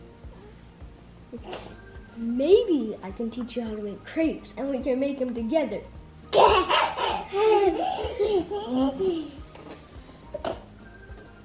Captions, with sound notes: - Maybe I could teach you how to make crepes and we can make them together. - (laughs)